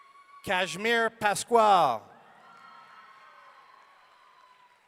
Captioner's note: audience cheering